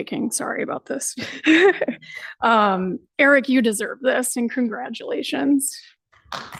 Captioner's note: laughs; applause